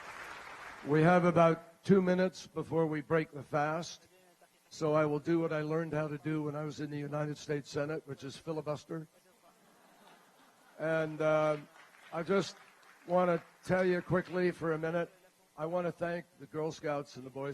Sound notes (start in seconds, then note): 9.7 laughter and applause